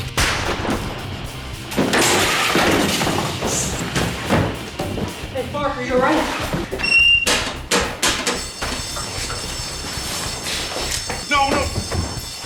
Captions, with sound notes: [gunshot] Hey, Mark, are you all right? [alarm ringing] No, no!